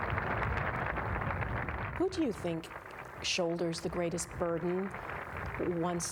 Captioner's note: applause